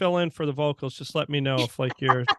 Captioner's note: laughing